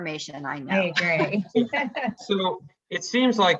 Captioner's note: laughs